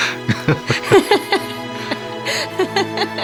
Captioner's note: both laugh; chuckles